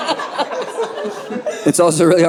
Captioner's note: audience laughing